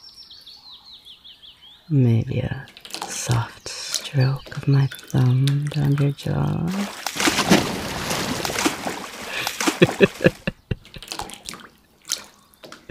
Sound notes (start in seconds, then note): 7.5 frantic splashes as you thrash away and come up sputtering